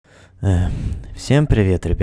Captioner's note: sigh